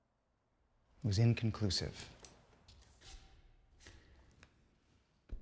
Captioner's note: pen clicks